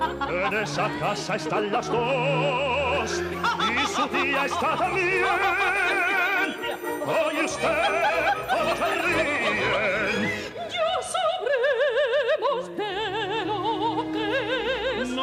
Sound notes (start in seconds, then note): 3.3 aunt laughs